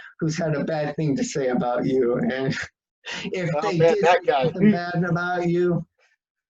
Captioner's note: laughs; laughs; chuckles